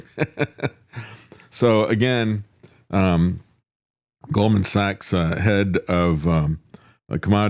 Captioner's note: laughs